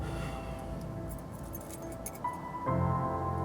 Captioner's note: exhales heavily; keys jingling; soft piano music playing